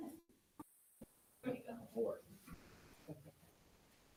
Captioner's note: attendees chattering